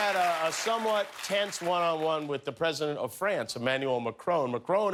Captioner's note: cheers and applause